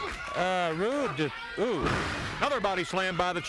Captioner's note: body thudding